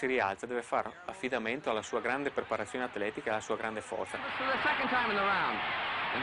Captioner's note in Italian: Applauso